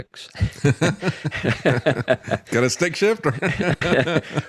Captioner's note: laughing